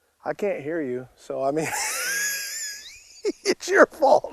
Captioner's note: laughing